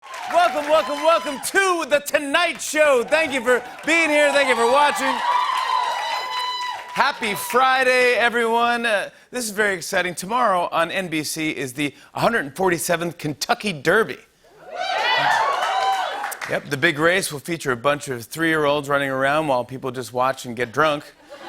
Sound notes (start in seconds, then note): 5.3 cheering and applause; 14.6 cheering and applause; 21.2 laughter